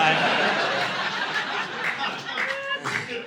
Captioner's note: audience laughing